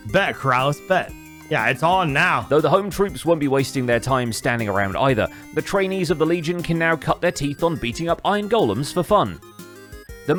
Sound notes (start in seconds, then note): none